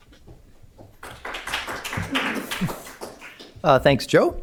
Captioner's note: applause